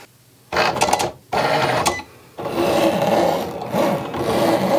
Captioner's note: Cricut rumbling